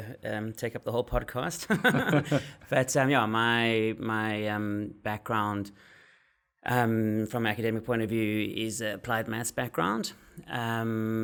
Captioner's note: laugh